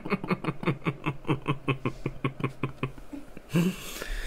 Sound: deep Resonating Cackle

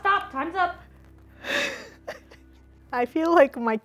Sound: laughing

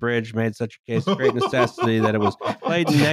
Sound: laughs

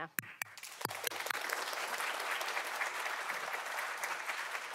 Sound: audience clapping

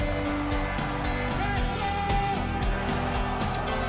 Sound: applause

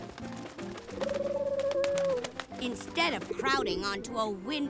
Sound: wings beating, cooing

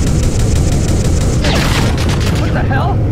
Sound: aircraft gets hit; shooting

